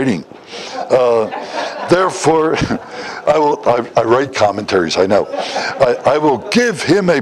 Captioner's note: Смех